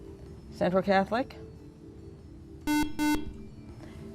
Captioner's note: buzzer